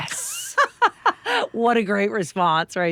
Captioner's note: laughing